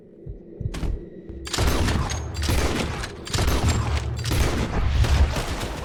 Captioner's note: blasting Sounds